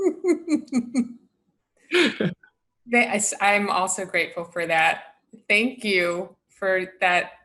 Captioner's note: laughter